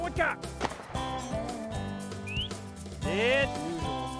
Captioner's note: gun shot; man whistles